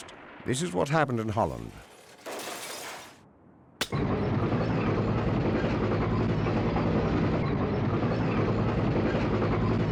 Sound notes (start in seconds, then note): 4.3 tank rumbling